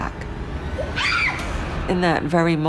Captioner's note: Cindy screaming